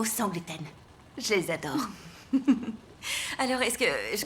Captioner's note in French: rires